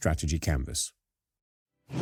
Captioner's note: whoosh